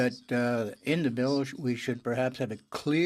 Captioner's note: speaking in french